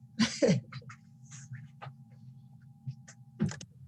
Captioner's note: laughs